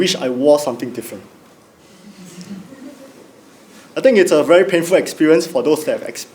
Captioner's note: laugh